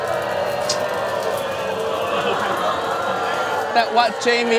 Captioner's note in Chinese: 观众们嘘声四起